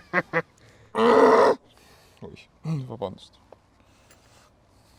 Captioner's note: grunt